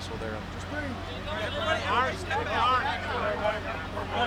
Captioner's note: people chattering